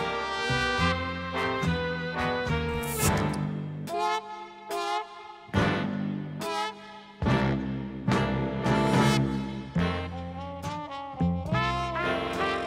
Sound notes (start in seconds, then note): 2.7 bottle cap hisses